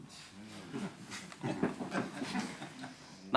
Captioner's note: all chuckling